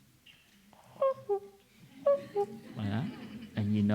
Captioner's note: sounds of cuckoo